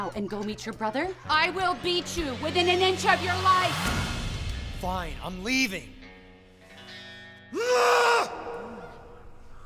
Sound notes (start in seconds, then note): 7.5 scream